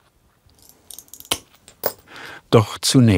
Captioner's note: cracking